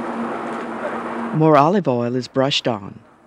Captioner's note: voiceover